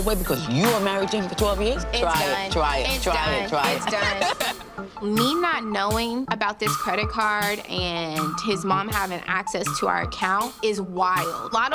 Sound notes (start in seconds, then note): 3.2 laughing